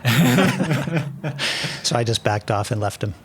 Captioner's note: laughing